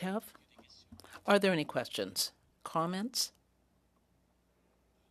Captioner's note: speaking French